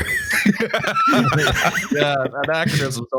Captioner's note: laughter